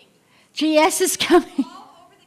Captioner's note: laughter